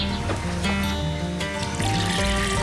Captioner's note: birds chirping